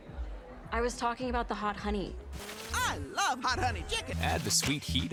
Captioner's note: TV Sounds